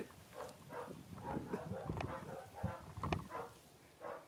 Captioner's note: dogs barking